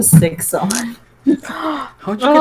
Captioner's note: righteous gasp